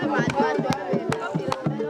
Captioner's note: clapping